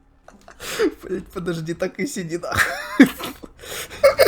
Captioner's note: giggles